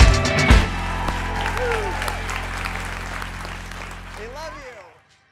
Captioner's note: audience applauds